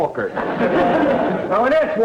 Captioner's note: audience laughter